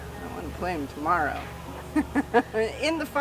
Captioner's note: laughing